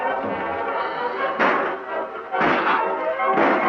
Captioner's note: guns firing